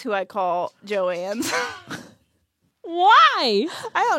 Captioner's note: laughs